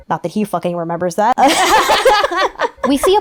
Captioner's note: sisters laugh